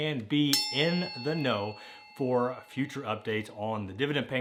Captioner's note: bell dings